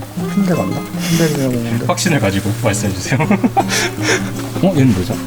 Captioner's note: laughs